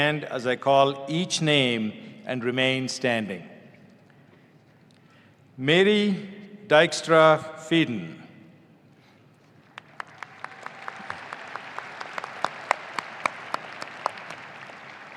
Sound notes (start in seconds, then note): 9.6 audience applauding